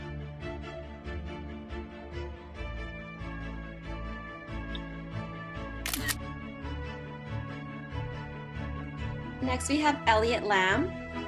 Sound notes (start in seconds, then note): 5.8 camera shutter sound